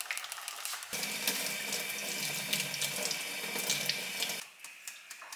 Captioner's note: rinsing fresh blueberries under a stream of cold water